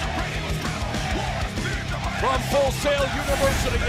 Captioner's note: fans chanting